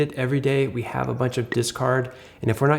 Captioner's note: icon pops